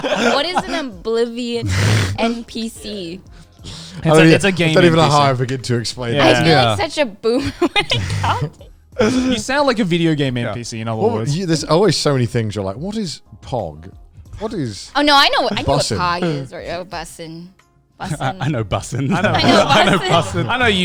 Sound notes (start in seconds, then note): 7.4 laughs; 18.1 laughs